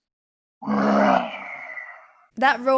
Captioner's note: roaring